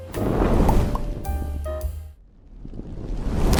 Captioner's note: flames whooshing